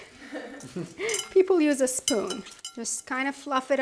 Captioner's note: chuckling